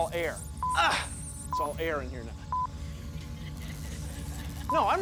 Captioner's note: grunts